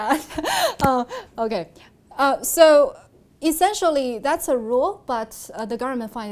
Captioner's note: laughs